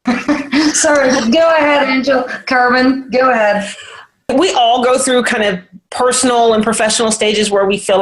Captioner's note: all laugh